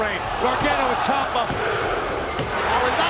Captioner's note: crowd cheering